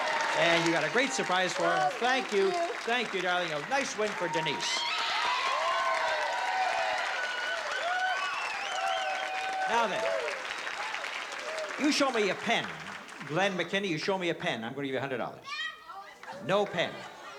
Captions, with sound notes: And you got a great surprise for him. - Oh, thank you. - Thank you, darling. A nice win for Denise. [CHEERING] Now, then, you show me a pen. Glenn McKinney, you show me a pen, I'm going to give you $100. No pen.